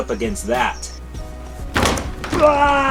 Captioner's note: crash; loud grunt